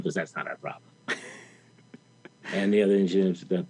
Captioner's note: interviewer laughing